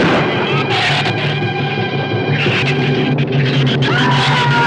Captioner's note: gun fires; shrews snarl; Jerry screams